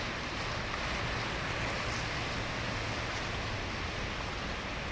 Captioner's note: water rushing